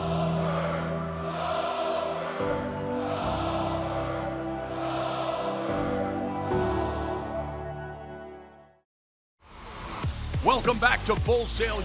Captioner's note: crowd cheering